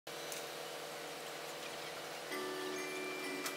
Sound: crane lifting; christmas music

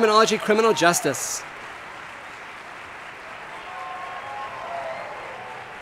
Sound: audience applauding

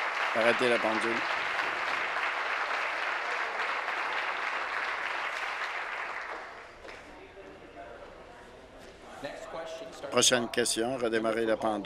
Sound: applause

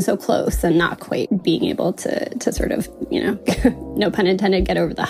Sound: chuckles

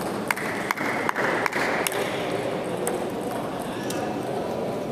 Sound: applause

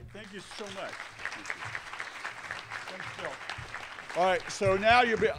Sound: applause

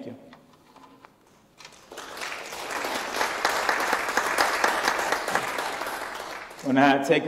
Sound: applause

